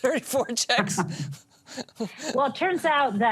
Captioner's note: laughter